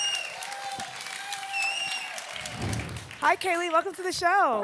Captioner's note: applause and cheering cont